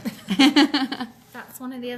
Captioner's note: laughing